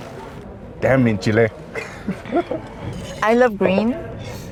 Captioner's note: speaking foreign language